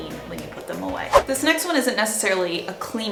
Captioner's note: whooshing